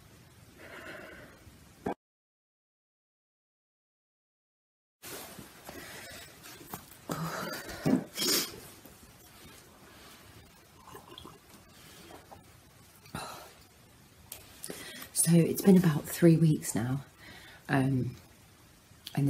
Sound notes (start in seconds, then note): 0.3 sighs; 7.2 sniffs